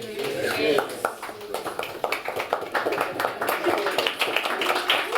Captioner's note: applause